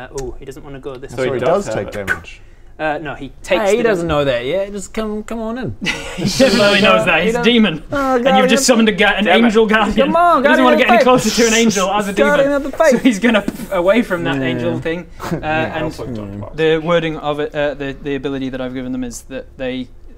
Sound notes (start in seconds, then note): 13.7 pff